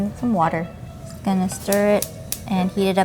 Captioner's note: stove clicking